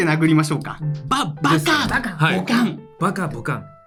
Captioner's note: smack; smack